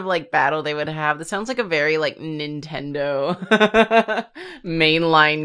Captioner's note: laughs